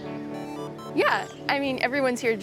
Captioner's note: video game chimes